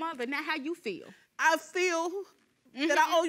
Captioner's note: sobbing